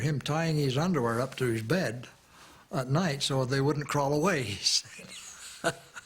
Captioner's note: chuckles